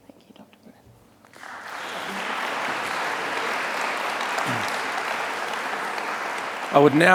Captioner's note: applause